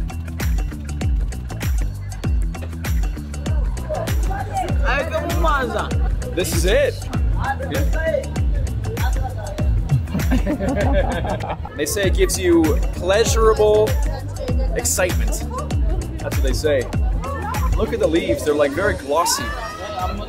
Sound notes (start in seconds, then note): 0.1 upbeat music; 5.0 speaking in foreign language; 10.0 both laughing